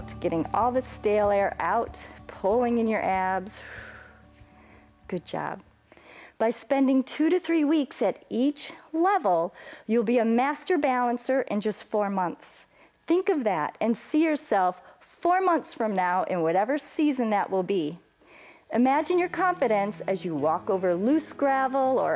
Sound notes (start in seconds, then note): 3.5 exhales